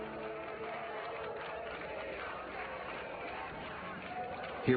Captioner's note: chanting